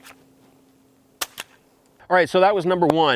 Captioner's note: gun clatters